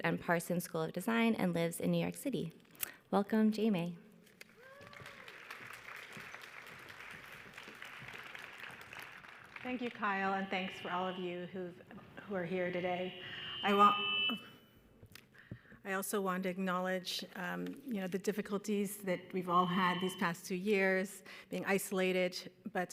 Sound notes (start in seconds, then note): 4.4 audience applauds